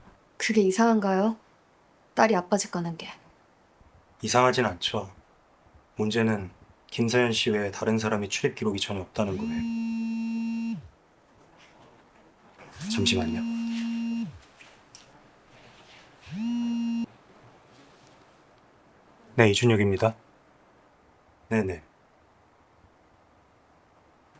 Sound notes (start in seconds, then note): 10.5 phone vibrating sound